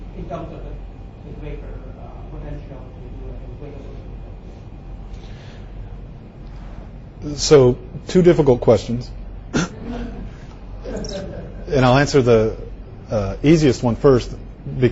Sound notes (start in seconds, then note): 9.5 student laughs